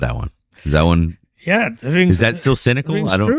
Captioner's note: uh